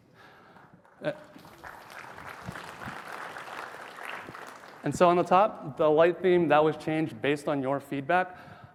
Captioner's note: applause